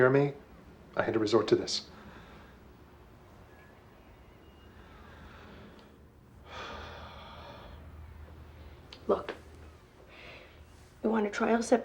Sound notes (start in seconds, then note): 6.4 sighs